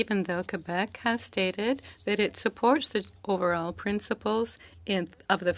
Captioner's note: speaking French